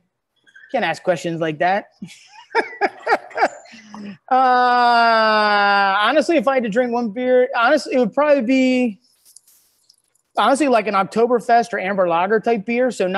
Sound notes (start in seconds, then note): 2.2 laughing